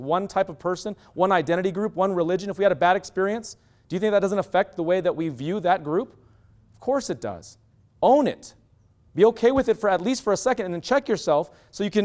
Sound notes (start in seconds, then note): none